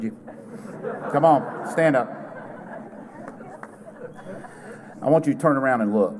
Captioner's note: laughter